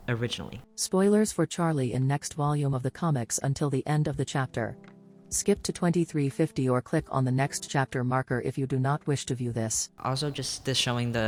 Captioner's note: robot voice